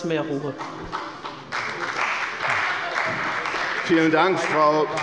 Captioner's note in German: Beifall bei der CDU